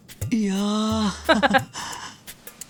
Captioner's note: chuckles